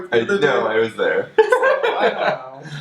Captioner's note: laughs